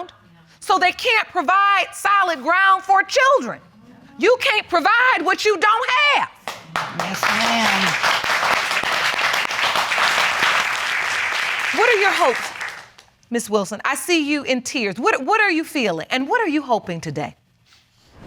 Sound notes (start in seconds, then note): 6.4 audience applauding